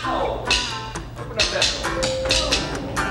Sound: rhythmic drumstick tapping; elevator dings

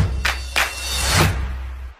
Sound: clap

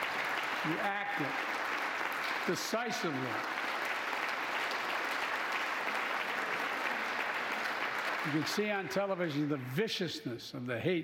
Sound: applause

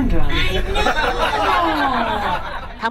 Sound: laughter

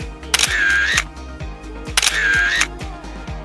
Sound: camera clicks

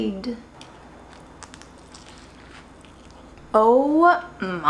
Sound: food crunching

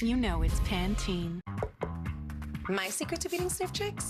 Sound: tap tap

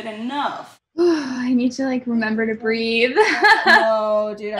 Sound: laughs

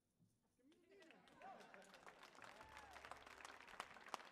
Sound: audience applauds

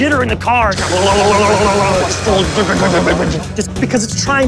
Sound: imitating car wobbling

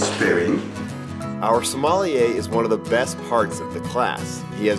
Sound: voiceover

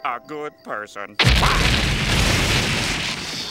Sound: explosion

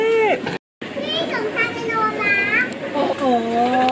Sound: child speaking in Thai

